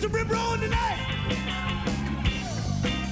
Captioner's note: cheering